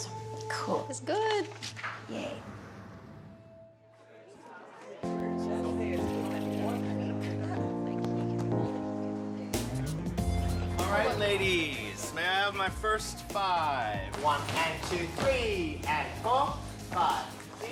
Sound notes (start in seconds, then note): 4.1 people chattering